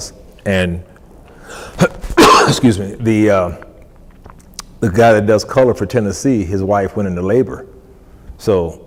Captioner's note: coughs